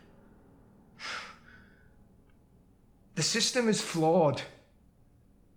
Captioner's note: sighs